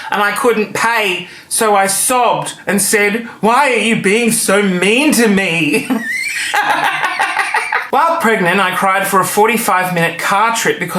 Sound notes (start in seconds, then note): 5.8 laughing